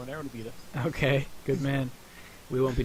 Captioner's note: chuckling